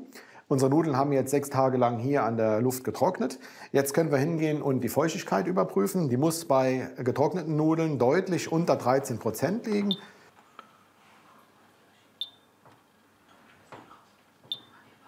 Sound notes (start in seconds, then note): 12.1 beeps